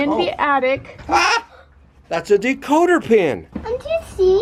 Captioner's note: laughs